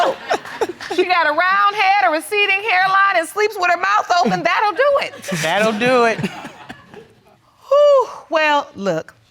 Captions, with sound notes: She got a round head, a receding hairline and sleeps with a mouth open. That'll do it. That'll do it. (CHUCKLES) Whoo. Well, look.